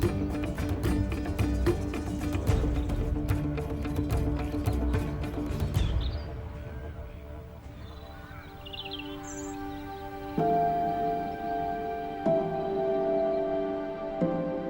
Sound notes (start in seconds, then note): 7.9 birds chirp; 7.9 peaceful music